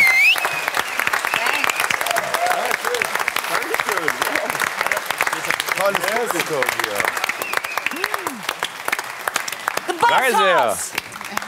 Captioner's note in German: Applaus